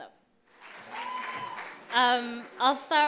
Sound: cheers

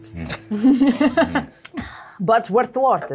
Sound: laughs

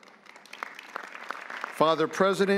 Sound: audience applauding

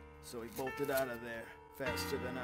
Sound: page turn

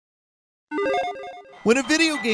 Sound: logo beeping

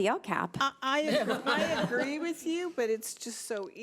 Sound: people laughing

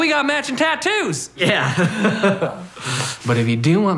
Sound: laughing

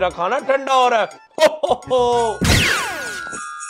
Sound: Santa laughing

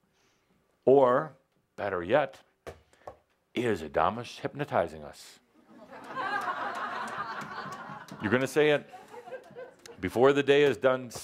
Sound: laughter

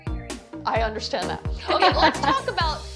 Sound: both laugh

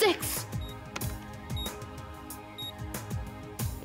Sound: beeping

